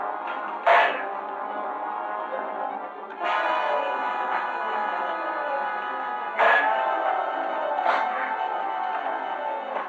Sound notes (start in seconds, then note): 0.5 clank; 6.3 clank